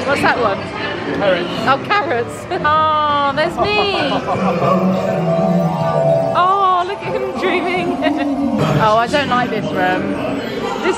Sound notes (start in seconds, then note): 7.0 laughs